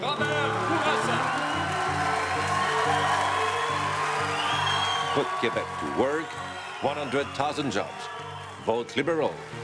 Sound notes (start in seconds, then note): 2.0 all cheering and clapping